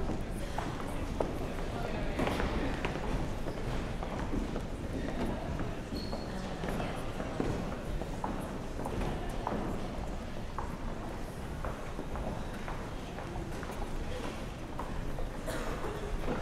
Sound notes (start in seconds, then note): 3.1 general chatter